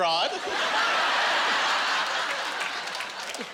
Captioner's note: laughing